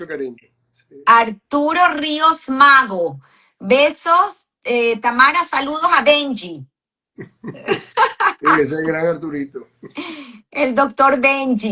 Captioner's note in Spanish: risas